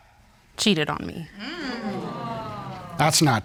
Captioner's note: audience groans